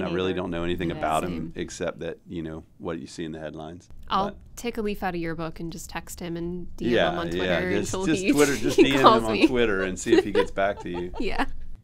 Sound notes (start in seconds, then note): 6.9 laughs